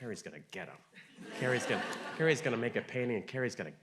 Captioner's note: audience laughing